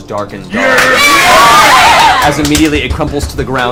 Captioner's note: all cheer